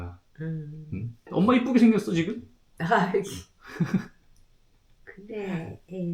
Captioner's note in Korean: 목을 가다듬음